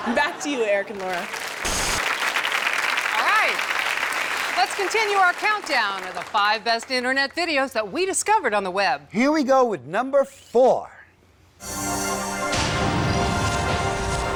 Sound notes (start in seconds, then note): 0.0 audience laughs; 0.8 audience applauds; 11.6 upbeat music